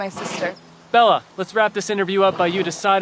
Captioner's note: horse snorts